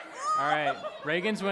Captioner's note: laughs